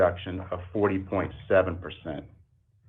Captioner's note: ~audio distortion~